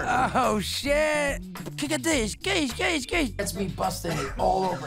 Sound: makes firework noises

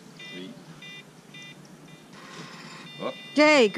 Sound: bike rack beeping

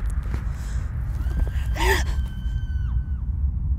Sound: scream

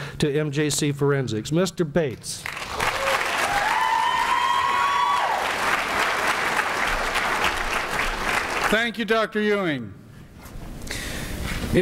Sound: applause and cheering

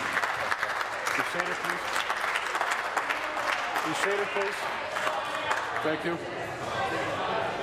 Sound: applause

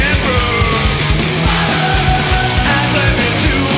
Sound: crowd

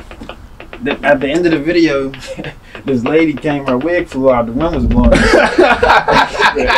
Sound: laughing

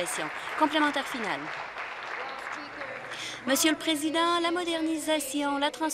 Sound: applause

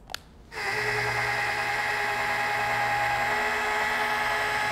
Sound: clicking; machine whirring

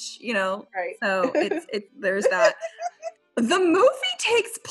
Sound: laughs

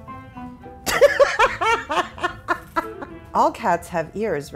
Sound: laughter

